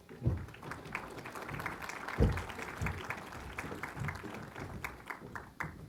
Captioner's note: applause